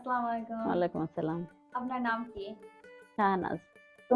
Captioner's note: speaking bengali